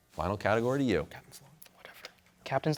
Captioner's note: whispering